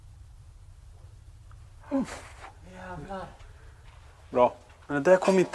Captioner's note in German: Lauter Knall im Gebäude